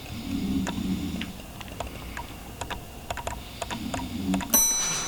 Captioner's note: snores